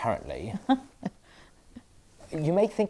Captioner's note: Aquila laughs politely